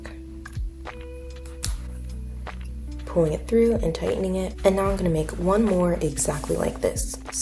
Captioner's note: scissor cut sound